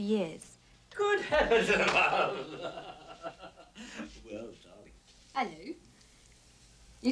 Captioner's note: laughs